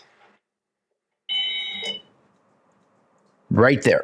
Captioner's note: whistle blows